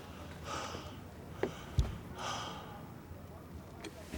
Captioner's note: James panting